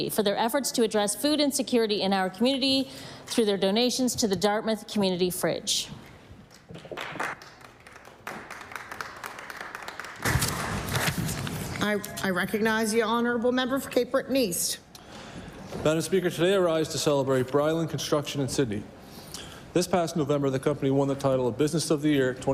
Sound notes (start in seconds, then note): 8.7 applause